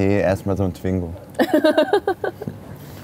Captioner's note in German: Gelächter